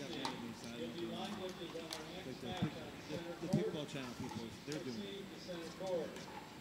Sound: announcer speaking to the crowd in the background

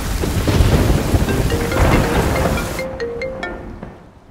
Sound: cell phone rings

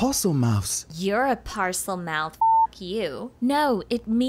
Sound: beep

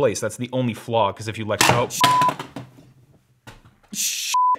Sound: metal clattering; beep

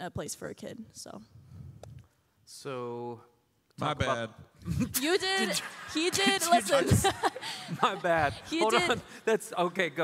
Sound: laughter

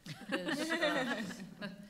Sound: laughing

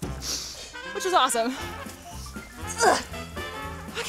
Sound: grunts

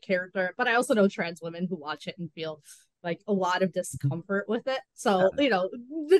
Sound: hisses

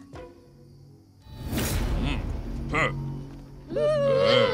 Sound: struggling sound

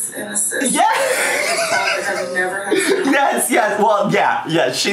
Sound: laughing

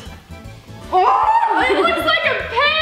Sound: squeals

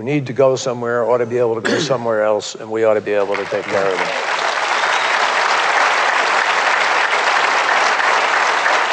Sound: applause

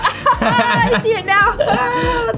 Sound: laughs

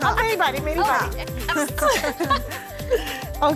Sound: giggles

